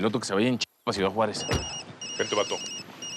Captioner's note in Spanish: suena el celular